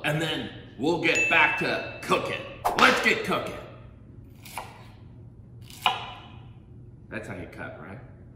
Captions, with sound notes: and then we'll get back to cookin'. (whip cracking) Let's get cookin'. (knife chopping) That's how you cut, right?